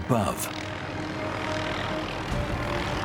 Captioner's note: helicopter chopping